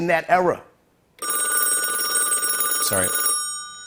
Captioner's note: telephone rings